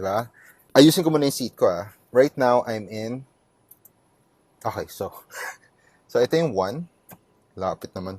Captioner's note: laughs